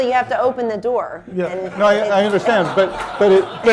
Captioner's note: laughter